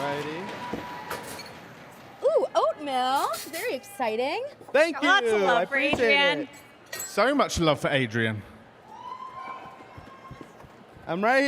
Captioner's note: cheers and applause